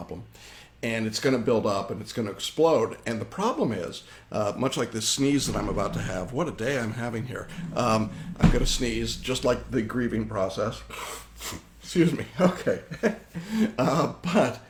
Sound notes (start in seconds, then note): 10.9 sniffles; 12.2 chuckles